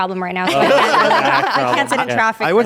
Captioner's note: everyone laughs